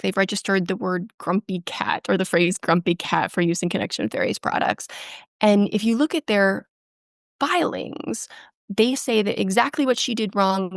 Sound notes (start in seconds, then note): none